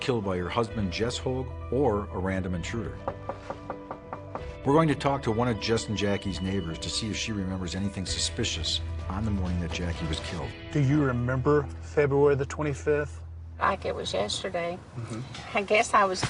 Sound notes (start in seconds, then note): 5.1 knocking on door